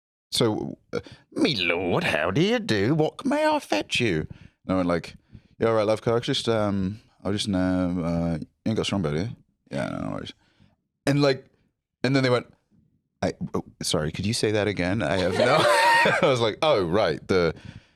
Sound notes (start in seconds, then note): 13.2 American accent